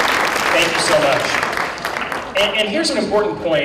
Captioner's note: applause